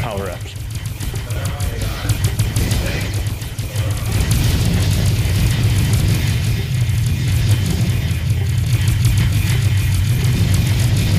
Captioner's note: game sounds